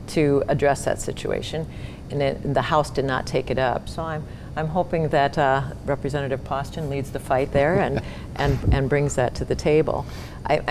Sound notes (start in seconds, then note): 7.6 laughs